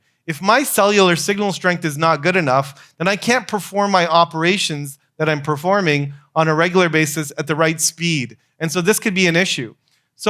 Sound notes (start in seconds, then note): none